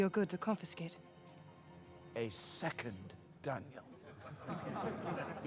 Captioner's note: laughter